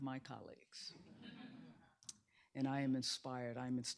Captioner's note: laughter